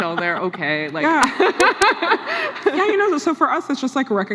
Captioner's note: laughs